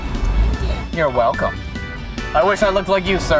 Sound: voiceover

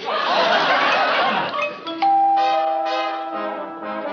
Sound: doorbell ringing

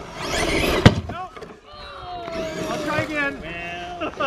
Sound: bangs; awwws; laughing

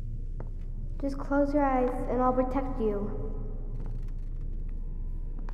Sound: child's Voice

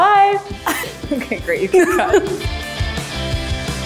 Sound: laughs; upbeat music

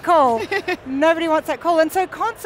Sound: laughs

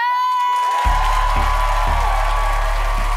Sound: applause

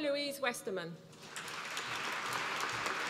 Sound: applause

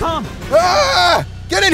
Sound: screams

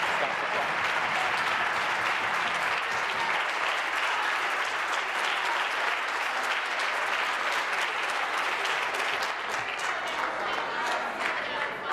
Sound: applause

